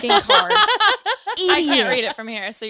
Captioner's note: all laughing